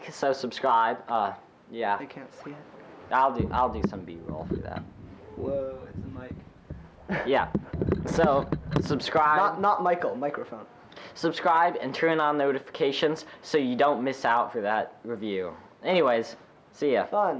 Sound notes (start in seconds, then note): 6.8 laughs